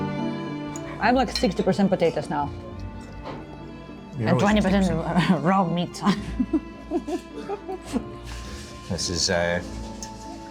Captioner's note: laughing